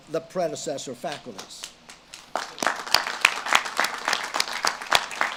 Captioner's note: audience claps